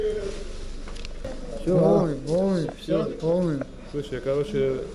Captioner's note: something in Georgian